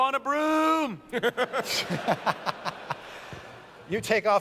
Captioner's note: laughter